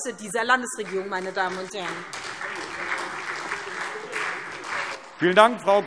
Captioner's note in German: Beifall SPD und DIE LINKE